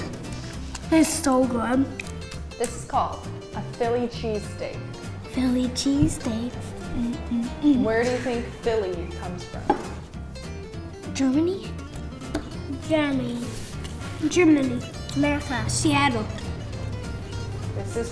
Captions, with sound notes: - It's so good. - (sing-song) Philly cheesesteak, mm mm mm - Germany? - Germany. - Germany. - America. - Seattle.